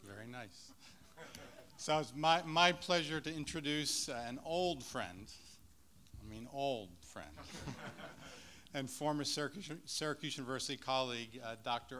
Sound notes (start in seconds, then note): 7.4 laughs